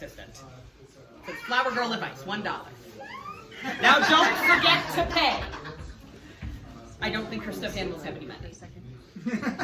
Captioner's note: laughs